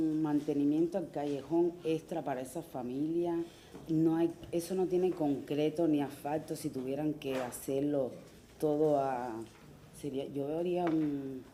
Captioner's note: speaking through interpreter